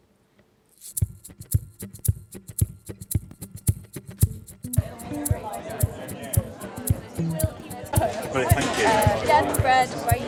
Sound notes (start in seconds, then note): 4.2 crowd chatting